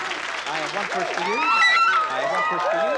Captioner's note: screaming